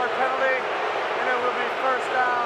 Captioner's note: booing